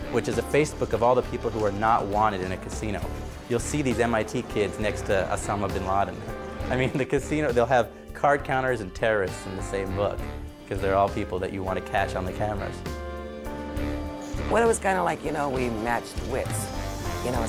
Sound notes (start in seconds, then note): 6.5 chuckles